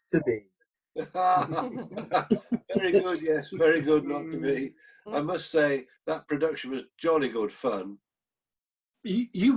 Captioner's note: laughs